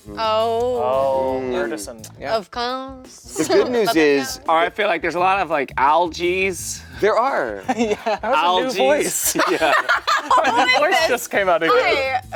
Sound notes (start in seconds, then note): 9.3 everyone laughing